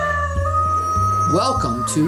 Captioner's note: rooster crowing; intro music